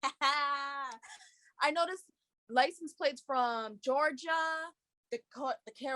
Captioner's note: laughs